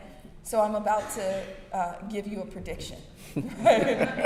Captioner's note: brief laughter